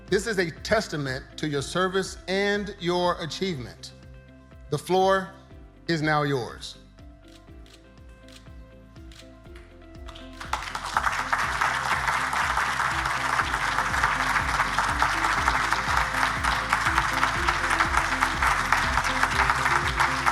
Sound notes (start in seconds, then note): 8.0 camera clicking; 11.3 audience applauding